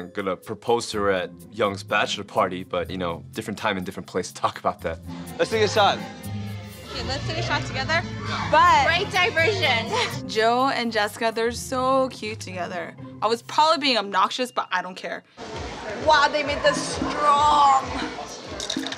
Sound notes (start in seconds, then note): none